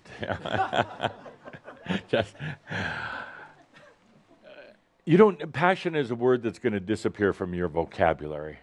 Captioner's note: Adamus chuckles